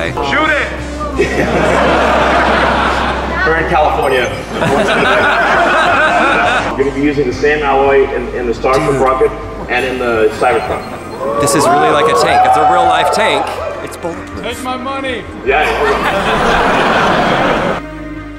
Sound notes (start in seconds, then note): 1.0 crowd laughing; 15.5 crowd laughing